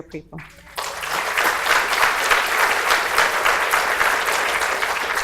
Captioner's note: audience applauds